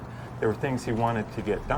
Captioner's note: rain pattering